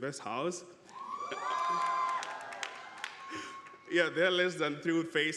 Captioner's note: audience applauding